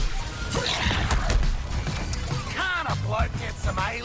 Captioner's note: guns firing